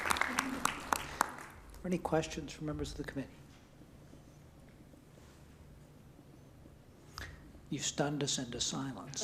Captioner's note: applause